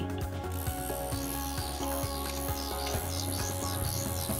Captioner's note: machine vibrating